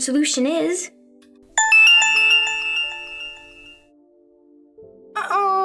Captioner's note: phone rings